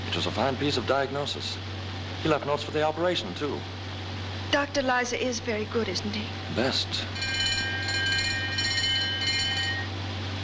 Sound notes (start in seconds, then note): 7.1 bell ringing